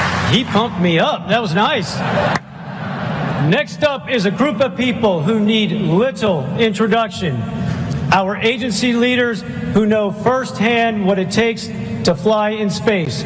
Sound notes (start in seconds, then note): 1.9 laughter